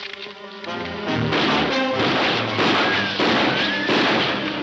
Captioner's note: gunshots banging